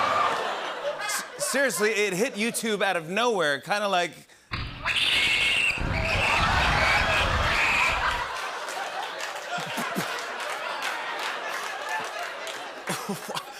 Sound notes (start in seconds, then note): 4.8 both screaming; 7.7 laughter